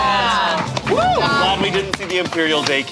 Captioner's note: group applauding